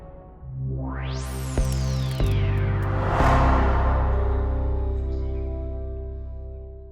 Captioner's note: intense music; audio warbling; logo whooshing